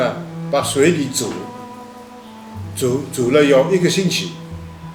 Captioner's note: wu Chinese